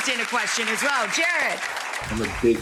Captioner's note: audience applauds